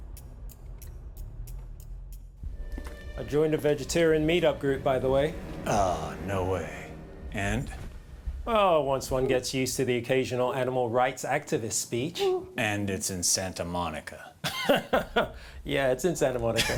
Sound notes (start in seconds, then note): 14.4 laughs; 16.4 chuckles